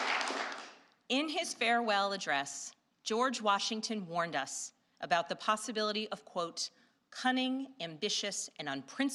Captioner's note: applause